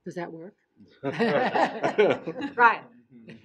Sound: laughing

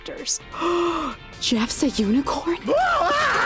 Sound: gasp; screaming

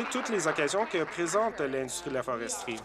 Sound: applause

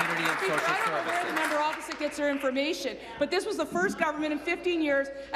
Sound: applause

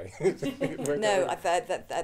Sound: audience laughing

